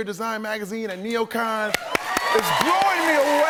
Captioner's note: cheers and applause